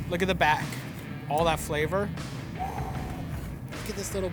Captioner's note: exhales deeply